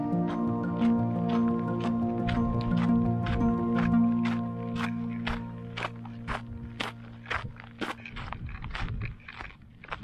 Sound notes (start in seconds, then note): 5.7 foot Steps